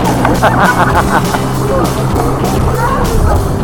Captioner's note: laugh